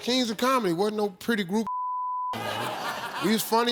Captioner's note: beep